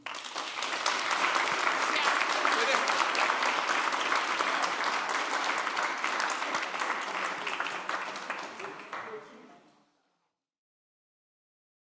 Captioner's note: applause